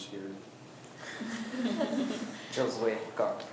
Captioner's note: students chuckle